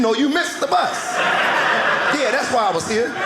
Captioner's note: audience laughing